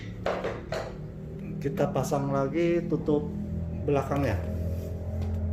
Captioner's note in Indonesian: suara mesin motor